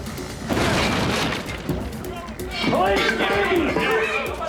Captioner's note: sighs